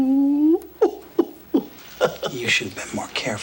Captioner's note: John chuckles; John feigns sobbing